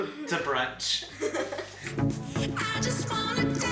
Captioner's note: laughs